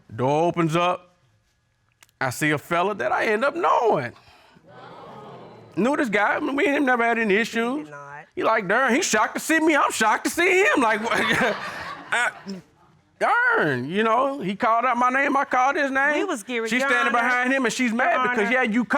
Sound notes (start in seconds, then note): 4.6 audience exclaiming; 10.8 chuckles